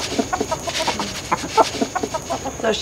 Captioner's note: chickens clucking